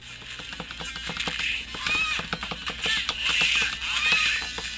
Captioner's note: buttons clicking